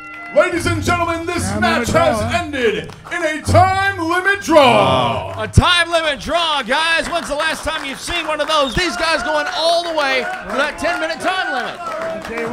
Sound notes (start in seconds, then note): 6.1 clapping